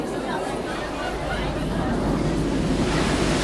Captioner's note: chatter